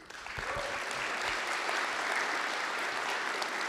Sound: applause

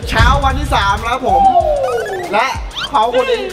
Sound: yelling

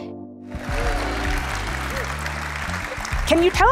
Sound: audience clapping

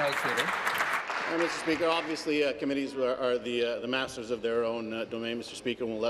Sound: applause

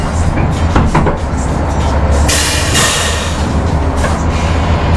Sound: machinery creaks

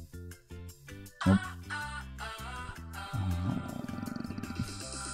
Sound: groans

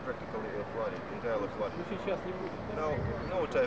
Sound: non-english speech

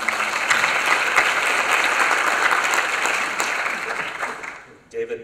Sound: applause

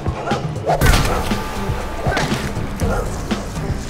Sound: thuds

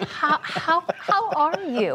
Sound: laughter

